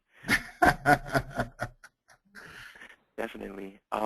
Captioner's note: laughs